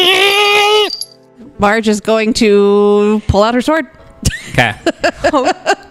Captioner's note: laughs